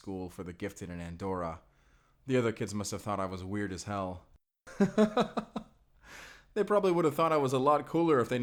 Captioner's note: laughing